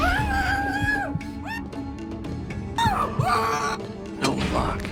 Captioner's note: muffled screaming